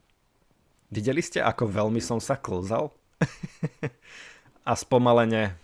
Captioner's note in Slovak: smiech